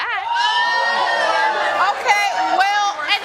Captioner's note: all exclaiming